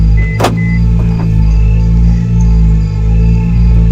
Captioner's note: doors unlock